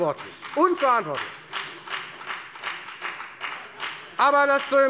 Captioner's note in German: Beifall bei der FDP